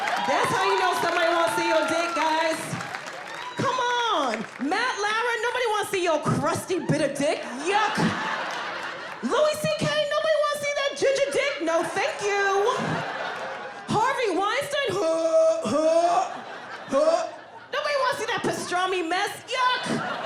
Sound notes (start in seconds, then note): 0.0 audience cheering; 7.2 audience laughing; 12.7 audience laughing; 15.6 gagging